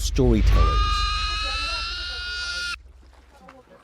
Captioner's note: pig screaming